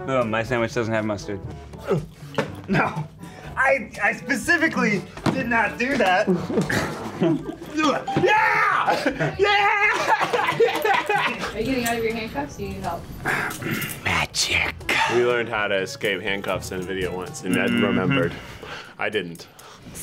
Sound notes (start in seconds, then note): 8.8 ding; 9.8 laughs